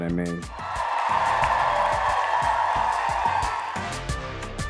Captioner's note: crowd cheers